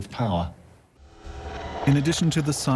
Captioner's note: eerie noises